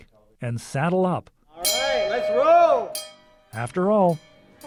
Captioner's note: bell dings